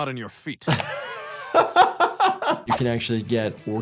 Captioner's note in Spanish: se ríe